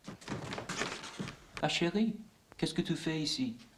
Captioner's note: speaking french